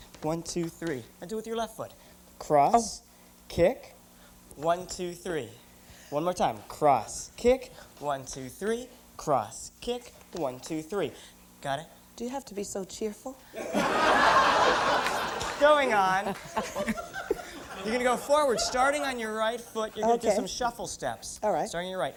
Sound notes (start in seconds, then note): 13.5 laughter